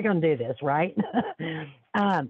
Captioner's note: laughs